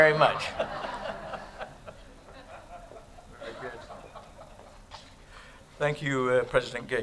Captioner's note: laughter